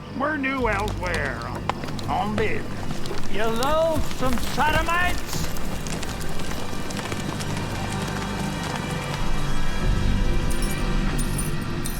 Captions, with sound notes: - You loathsome sodomites. (dramatic music playing) (shoes clinking)